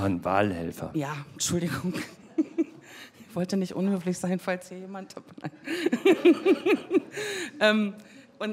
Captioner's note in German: lacht; lacht und Lachen im Publikum